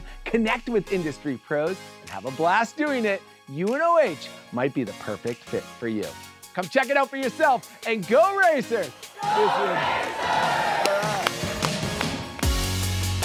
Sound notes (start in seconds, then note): 9.2 group clapping; 12.4 upbeat music